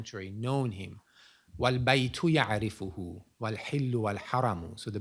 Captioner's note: non-english speech